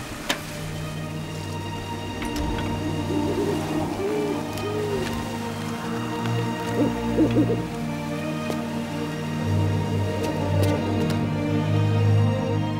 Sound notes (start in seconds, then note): 0.2 dramatic music; 6.6 owl hoots